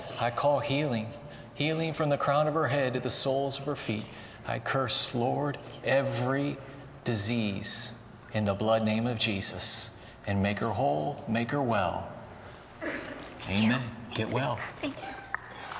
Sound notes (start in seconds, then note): 13.1 whispering